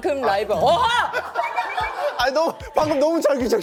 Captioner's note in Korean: 꺽꺽꺽꺽ㅋㅋㅋ